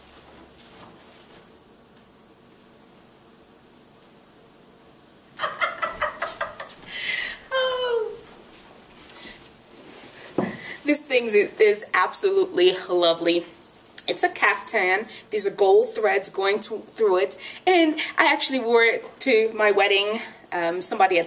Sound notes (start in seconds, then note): 5.4 laughs